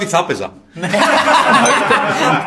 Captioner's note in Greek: γέλια